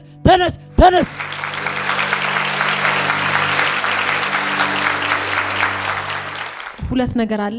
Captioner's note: applause